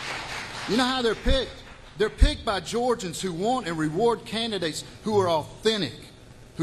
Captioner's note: applause